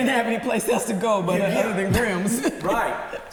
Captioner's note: laughs